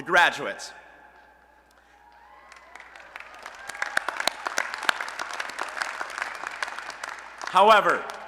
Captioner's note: applause and Cheering